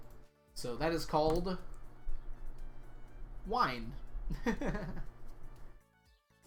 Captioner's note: laughs